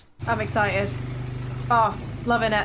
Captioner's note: ATV motor revving